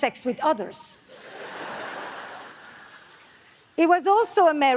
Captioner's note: audience laughs